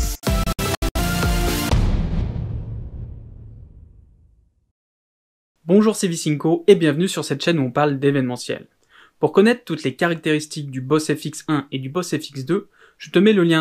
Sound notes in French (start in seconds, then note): 1.6 Boum